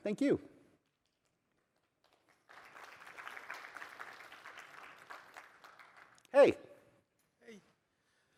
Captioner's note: applause